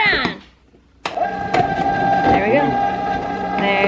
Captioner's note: ice cream machine sound